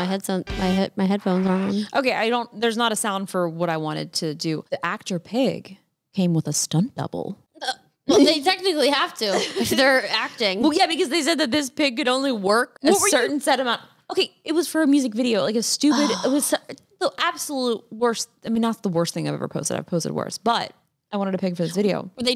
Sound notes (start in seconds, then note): 7.3 laughs